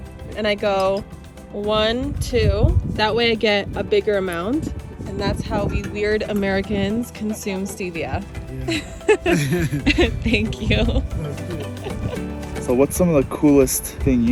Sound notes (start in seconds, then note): 8.6 laughing happily; 8.6 laughing warmly